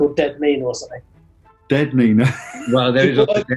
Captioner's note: laughing